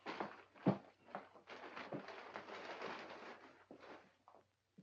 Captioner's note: paper rustling